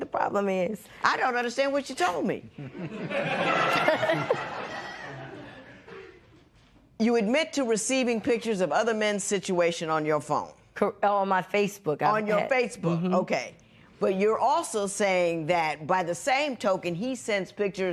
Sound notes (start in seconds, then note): 2.6 laughter